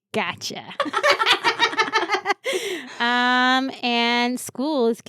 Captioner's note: laughing